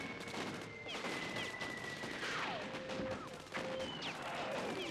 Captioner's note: game sounds